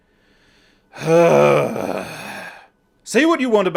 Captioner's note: sigh